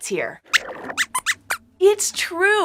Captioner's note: squeaks squeaks